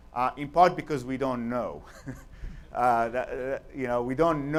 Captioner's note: chuckles